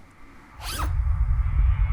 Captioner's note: unzipping